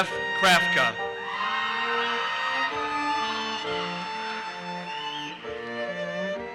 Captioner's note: audience cheers and applauses